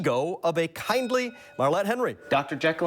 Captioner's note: bell dings